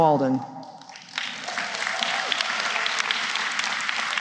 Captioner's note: applause